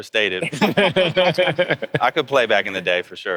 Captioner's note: laughing